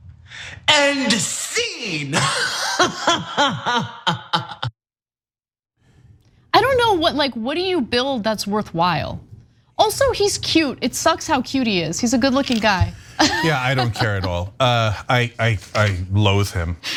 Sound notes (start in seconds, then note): 2.1 laugh